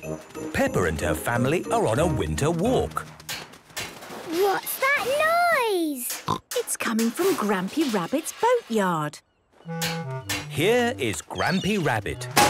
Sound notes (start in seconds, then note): 2.4 distant banging, crashes